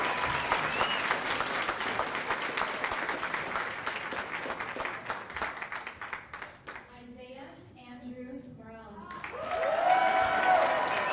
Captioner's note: cheers and applause